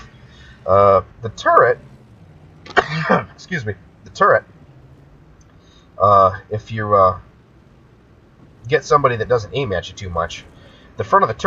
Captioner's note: cough